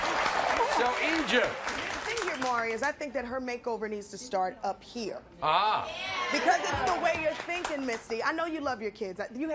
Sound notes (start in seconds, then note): 5.8 audience cheers